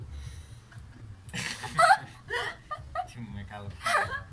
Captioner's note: laughter